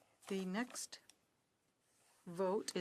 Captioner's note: speaking in French